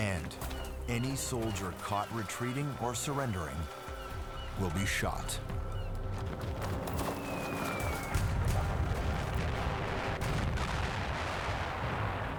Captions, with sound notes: And any soldier caught retreating or surrendering will be shot. [repeated explosions]